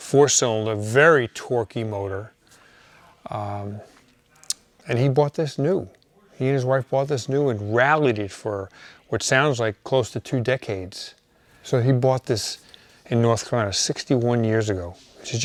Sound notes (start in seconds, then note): none